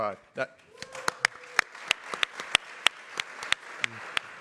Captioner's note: everybody clapping